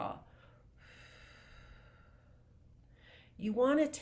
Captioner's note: presenter exhaling deeply